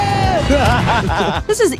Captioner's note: laughs